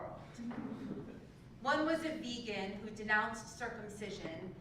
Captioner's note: laugh